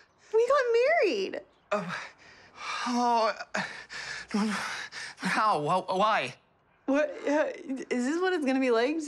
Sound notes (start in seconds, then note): 1.7 gasping